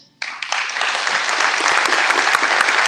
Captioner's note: applause